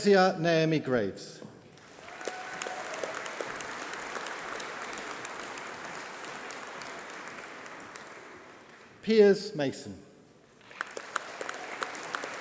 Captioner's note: applause